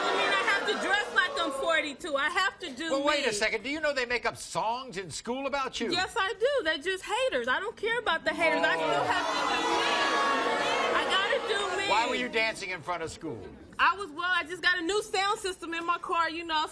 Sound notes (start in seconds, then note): 8.4 audience jeering